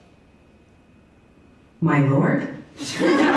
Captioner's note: virtual assistant voice